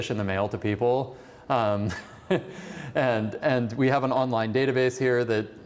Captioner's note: laughter